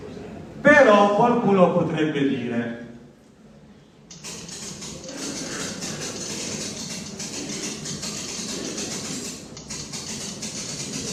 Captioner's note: sounds of a typewriter